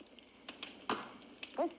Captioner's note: chicken leg drops on plate